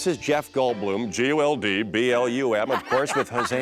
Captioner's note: as Goldblum